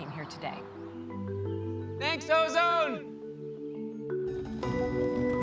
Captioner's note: echoing